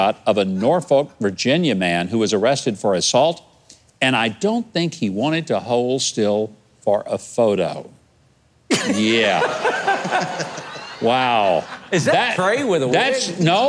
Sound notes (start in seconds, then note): 8.7 laughter